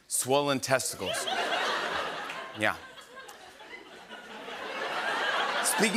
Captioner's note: laughter; fresh laughter